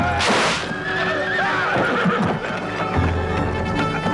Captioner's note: spear clatters; horse neighs